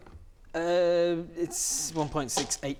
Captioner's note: stammers in terrible maths